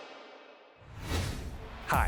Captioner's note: graphics whooshing